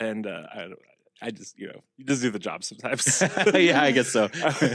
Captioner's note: laugh